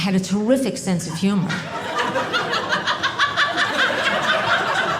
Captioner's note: audience laughing